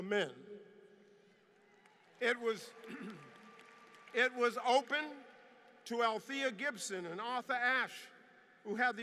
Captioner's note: applause